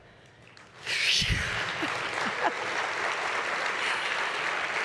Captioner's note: audience applauds